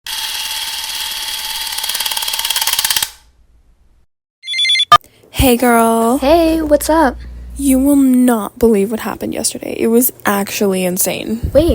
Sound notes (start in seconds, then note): 0.0 projector noise; 4.4 phone rings